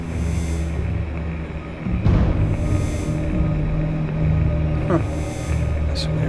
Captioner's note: beeping